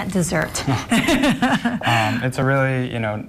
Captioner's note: laughing